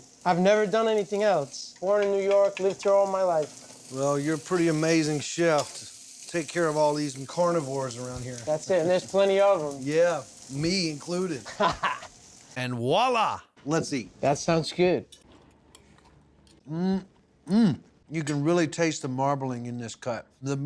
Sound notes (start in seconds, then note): 11.4 laughing